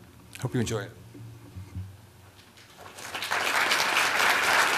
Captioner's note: applause